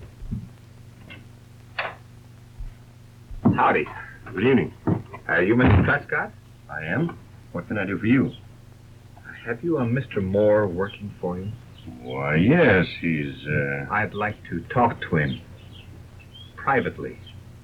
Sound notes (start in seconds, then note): 3.5 crash